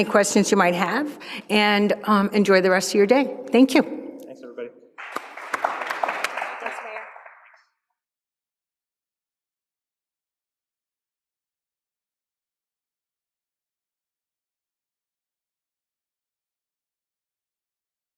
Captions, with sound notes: questions you might have, and enjoy the rest of your day. Thank you. - Thanks everybody. (applause)